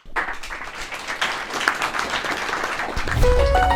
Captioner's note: audience clapping